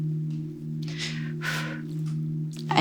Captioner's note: exhale